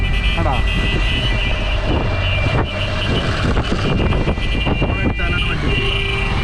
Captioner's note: reckless honking